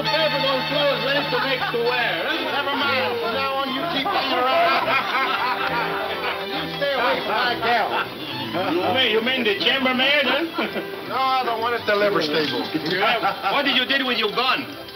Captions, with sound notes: - Nevermind, from now on you keep me around. (laughing) - You stay away from my gal. - You mean the chambermaid huh? - No the one at the stables. - What did you did with your gun? - Traded them for these boots.